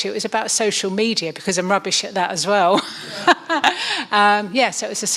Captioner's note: laughs